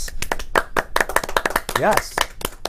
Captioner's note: applause